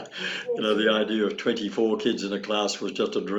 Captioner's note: chuckles